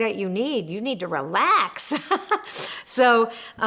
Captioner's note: laughs